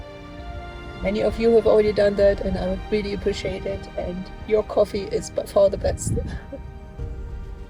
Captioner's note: laughs